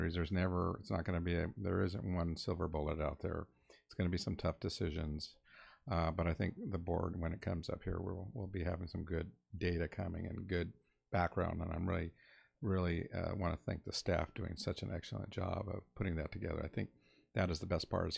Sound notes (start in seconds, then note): none